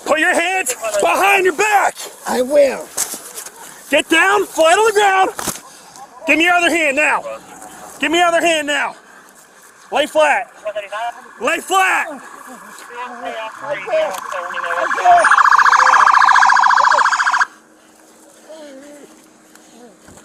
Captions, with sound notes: Put your hands behind your back. I will. Get down. Flattle him down. Give me your other hand now. Give me your other hand now. Lay flat. Lay flat. (sirens wailing)